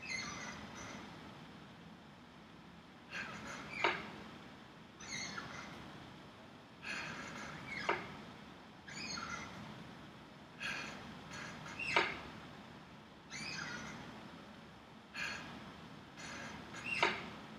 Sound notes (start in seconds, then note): 0.6 squeaking of chair